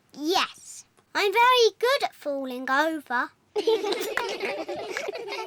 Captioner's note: all giggle